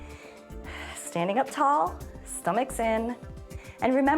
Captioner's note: inhales and exhales